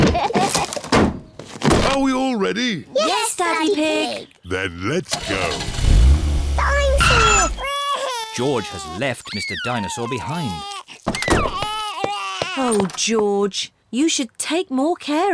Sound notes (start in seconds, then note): 5.2 wails